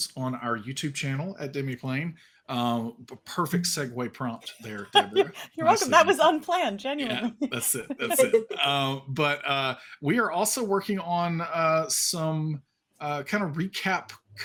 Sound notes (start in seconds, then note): 6.9 chuckles